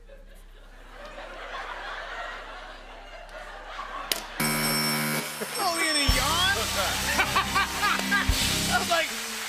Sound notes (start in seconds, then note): 0.0 laughter; 4.4 buzzer; 6.9 laughs